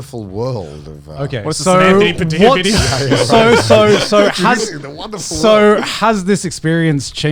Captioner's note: overlapping chatter and laughter